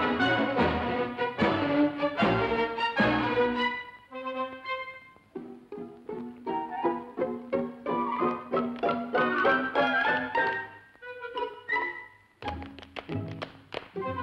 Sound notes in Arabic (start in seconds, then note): 6.3 موسيقى أوركسترالية غريبة; 8.1 صوت نقر الأحذية